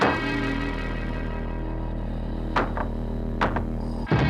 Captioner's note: pounding on wall